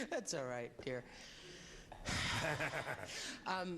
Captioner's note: exhales